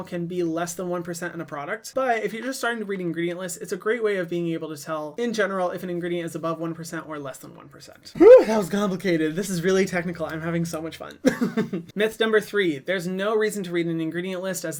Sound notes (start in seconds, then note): 11.2 chuckles